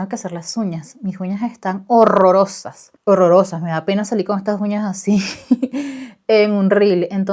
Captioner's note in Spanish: risas